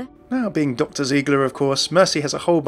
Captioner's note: voiceover